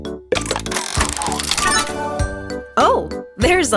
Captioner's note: mechanical whirring